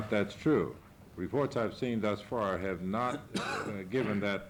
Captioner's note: reporter coughing off camera